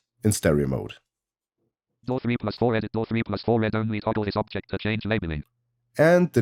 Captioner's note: automated voice